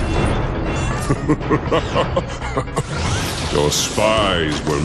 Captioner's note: laugh